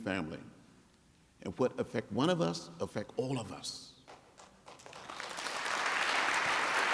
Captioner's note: applause